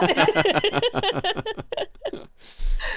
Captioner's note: laughing